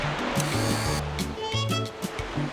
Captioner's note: whirring